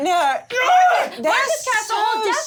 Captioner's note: overlapping chatter